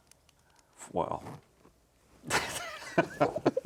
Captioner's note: laughs